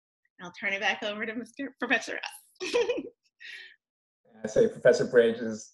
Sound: laughs

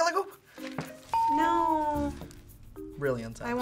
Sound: bell rings

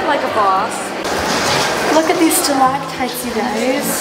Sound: running water

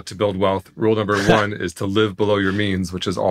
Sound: laughing

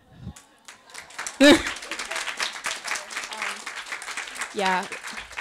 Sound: audience applauds

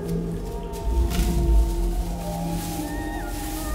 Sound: plastic crumpling

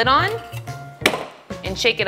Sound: hand slaps lid

